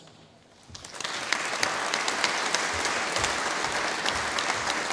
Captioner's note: audience applauding